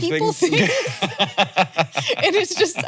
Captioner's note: both laughing